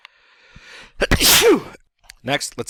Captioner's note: sneeze